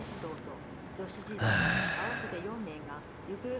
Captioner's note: sigh